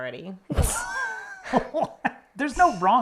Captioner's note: laughs